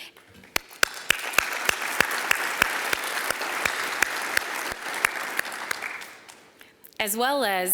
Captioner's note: applause